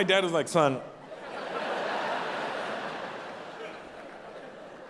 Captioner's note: audience laughing